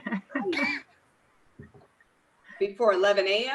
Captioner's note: laughing loudly